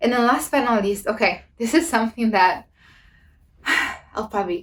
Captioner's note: sighs